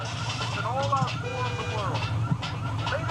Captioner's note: horn honks